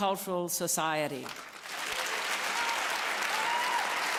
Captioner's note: applause